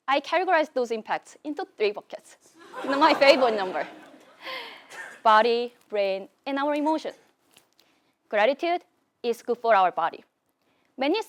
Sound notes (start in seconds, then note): 2.6 laugh